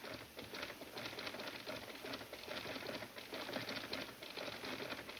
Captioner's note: typewriter typing